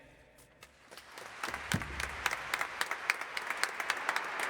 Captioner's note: audience applauding